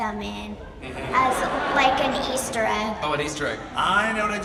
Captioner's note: audience laughs